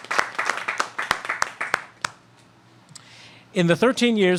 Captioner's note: applause